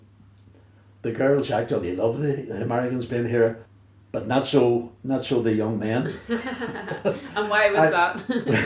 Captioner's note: laughs